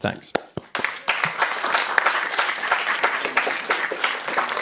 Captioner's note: audience clapping